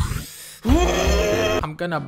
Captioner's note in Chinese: 大叫